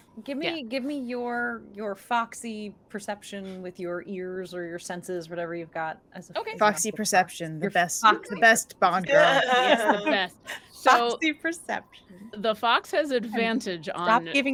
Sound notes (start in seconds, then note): 9.0 laughs